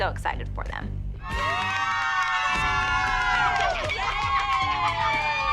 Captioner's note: cheering